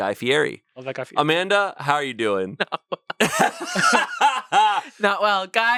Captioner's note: laughs